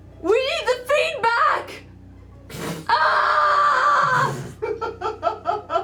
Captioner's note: yells